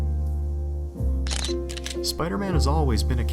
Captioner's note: camera shutter